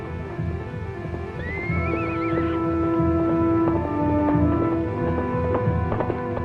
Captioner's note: suspenseful music; horse neighs